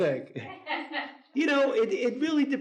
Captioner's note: audience laughs